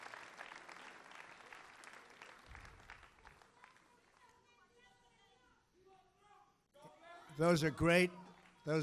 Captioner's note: applause